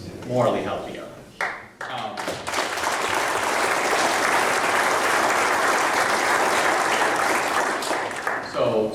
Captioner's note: audience applause